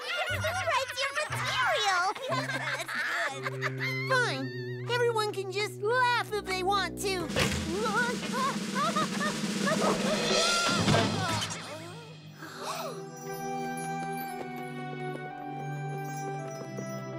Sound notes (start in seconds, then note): 12.4 gasps